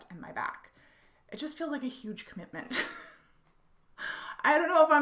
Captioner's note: laughs